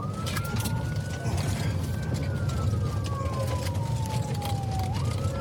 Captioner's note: siren wailing